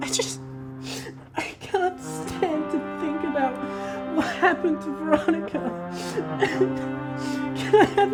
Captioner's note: fake cries